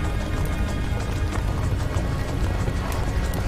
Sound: fire crackling

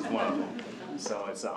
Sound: laughter

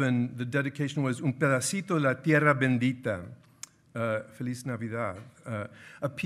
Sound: speaking in foreign language

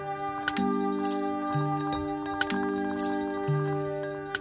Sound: clicking and rattling

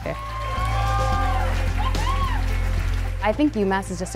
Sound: cheering

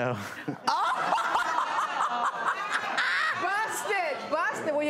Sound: laughter

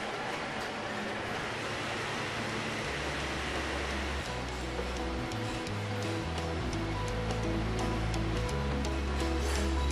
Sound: shop noises

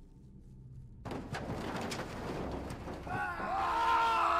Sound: crashing; screaming

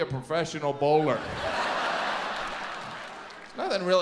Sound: audience laughs

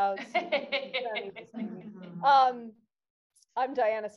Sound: laughing; speaking softly

